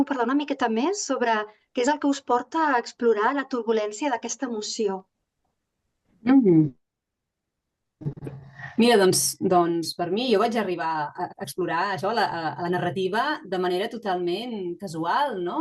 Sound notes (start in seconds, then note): 8.8 speaking in Catalan